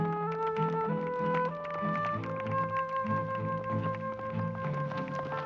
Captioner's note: audience applauding